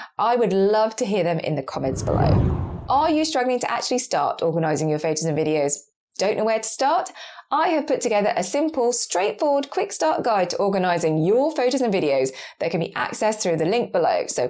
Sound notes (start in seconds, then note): 1.7 whooshing air